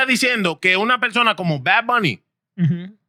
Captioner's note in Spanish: Hablando en idioma extranjero